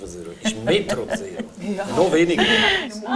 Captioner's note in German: lacht